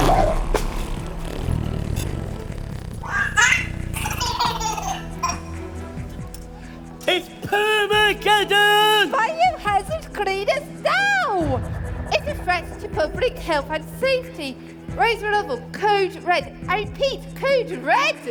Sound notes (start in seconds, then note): 0.0 interference and loud bangs; 0.0 long and looud baby trumps; 3.0 baby giggles